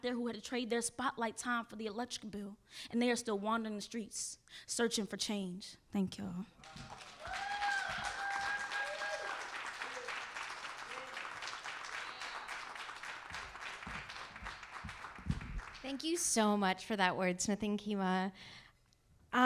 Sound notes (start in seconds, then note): 6.6 audience cheering; 6.6 audience applauding